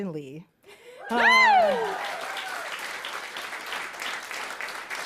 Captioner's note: applause